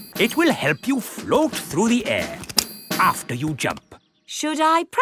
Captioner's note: clicking